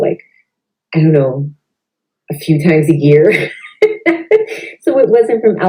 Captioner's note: laughs